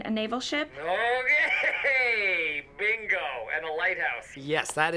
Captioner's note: chuckling